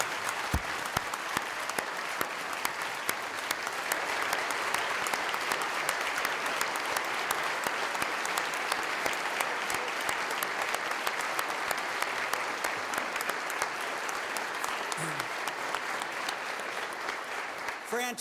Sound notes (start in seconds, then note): 8.4 clapping